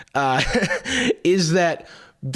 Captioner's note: laughs